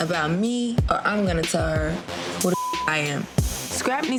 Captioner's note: beep